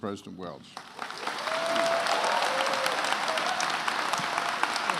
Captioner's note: attendees applauding